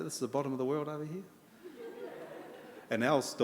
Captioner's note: audience laughter